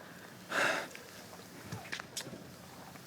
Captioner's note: exhales